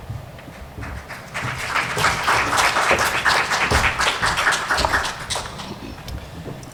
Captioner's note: applause